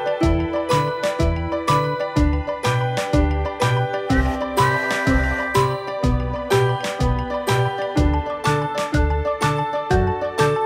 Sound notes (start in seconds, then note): 4.3 train tooting; 7.9 playful music